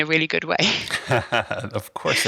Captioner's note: laughing